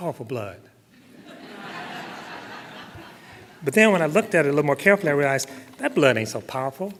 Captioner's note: laughter